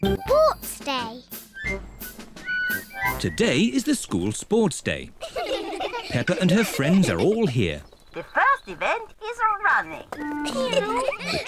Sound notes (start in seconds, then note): 5.1 kids giggle; 10.2 kids giggle